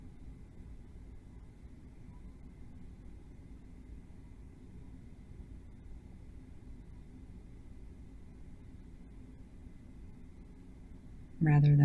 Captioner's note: silence